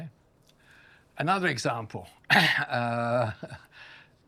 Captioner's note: coughs